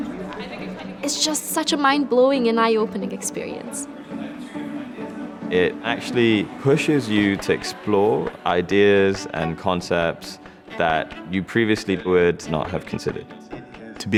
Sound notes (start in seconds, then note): 3.7 people talking; 3.7 pleasant music